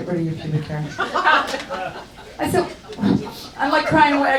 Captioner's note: audience laughs